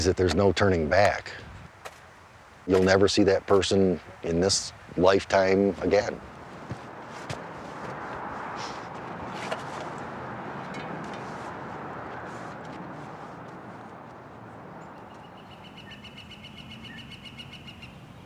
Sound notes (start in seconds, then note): 16.0 birds chirping